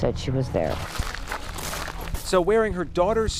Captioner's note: gravel crunching